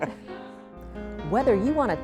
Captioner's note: laughter